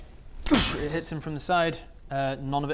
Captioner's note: doosch